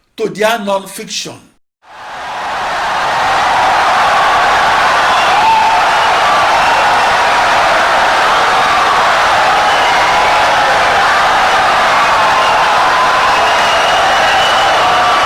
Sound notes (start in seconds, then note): 3.7 wild applause and cheering for 17 seconds